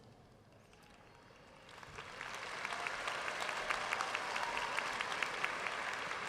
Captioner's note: audience cheering and applauding